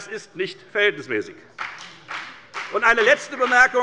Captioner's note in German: Beifall bei der FDP